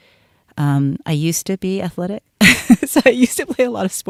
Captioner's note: laughs